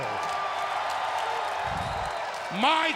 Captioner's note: crowd cheers